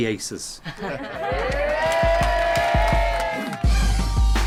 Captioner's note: cheering